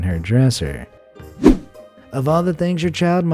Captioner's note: air whooshing